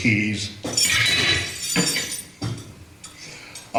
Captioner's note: key metal clanging